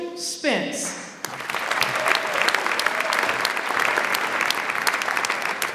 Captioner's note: audience applauds